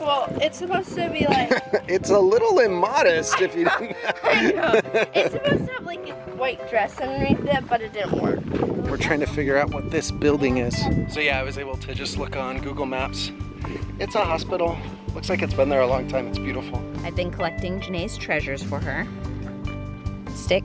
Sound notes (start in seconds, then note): 3.2 laughing